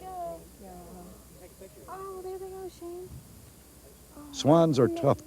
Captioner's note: indiscriminate talking